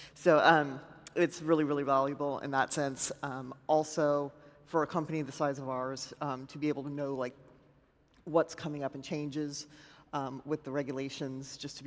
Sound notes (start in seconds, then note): none